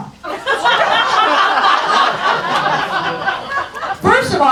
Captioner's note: audience laughs